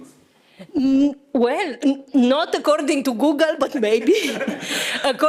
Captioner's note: risas